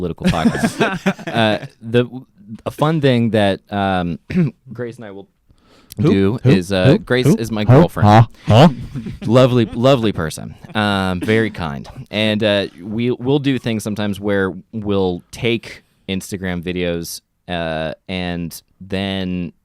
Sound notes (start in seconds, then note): 0.2 laugh; 9.1 gargles